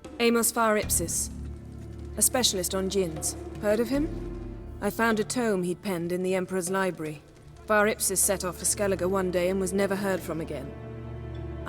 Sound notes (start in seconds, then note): none